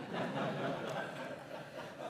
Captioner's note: laughter